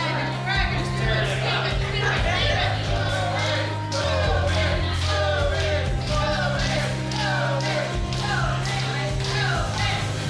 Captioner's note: cheering